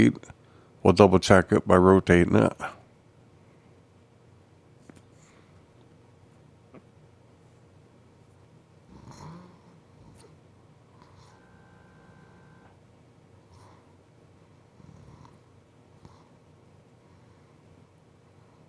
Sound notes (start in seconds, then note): 3.3 silence